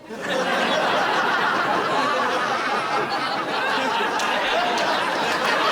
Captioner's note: laughter